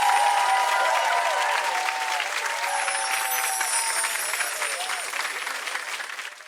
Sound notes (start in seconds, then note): 2.6 chimes ring